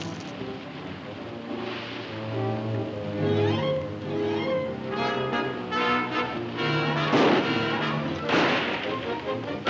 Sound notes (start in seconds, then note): 8.2 guns firing